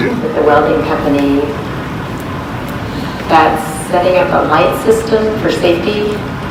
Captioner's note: welding